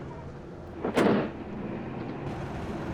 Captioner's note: car door slam